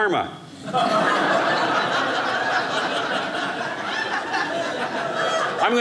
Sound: audience laughing

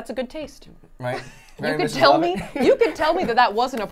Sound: laughs

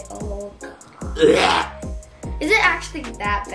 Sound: gags

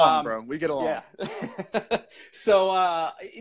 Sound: laughing

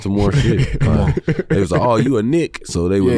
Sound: laughs

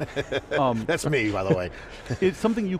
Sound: laughs

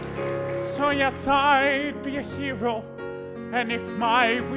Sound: applause

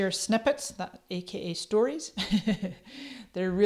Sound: chuckles

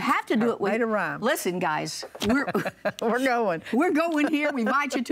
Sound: laughs

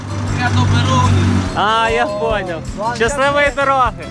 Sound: laugh

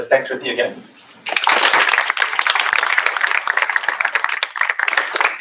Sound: applause

